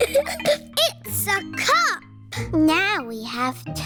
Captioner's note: giggles